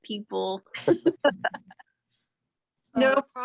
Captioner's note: female and male laughing